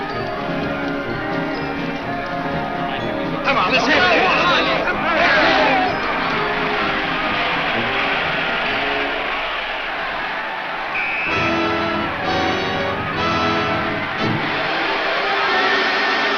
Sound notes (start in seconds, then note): 3.3 players yell; 10.6 whistle blows; 11.4 exciting, dramatic music